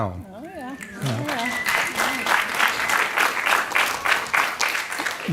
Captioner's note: audience clapping